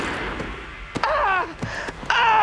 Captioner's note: groaning in pain